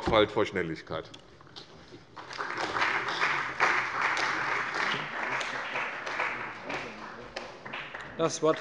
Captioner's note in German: Beifall bei der CDU und dem BÜNDNIS 90/DIE GRÜNEN